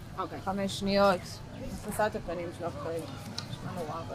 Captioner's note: hebrew